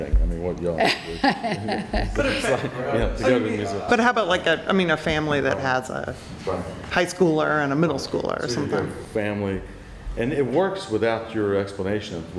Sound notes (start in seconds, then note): 0.8 laughter